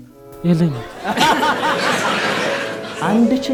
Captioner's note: laughter